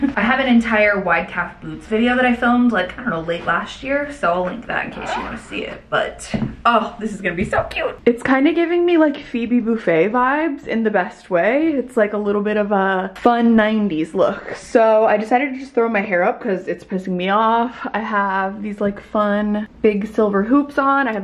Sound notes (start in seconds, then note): none